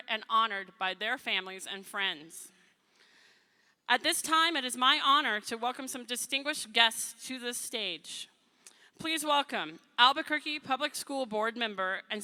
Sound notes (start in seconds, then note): none